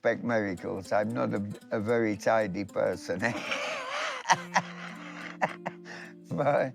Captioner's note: laughing